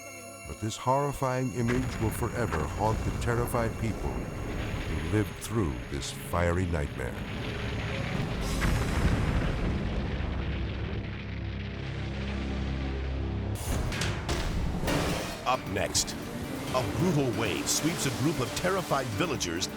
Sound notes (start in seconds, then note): 6.8 explosion booms; 13.2 intense music